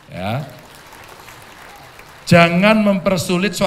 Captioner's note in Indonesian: tepuk tangan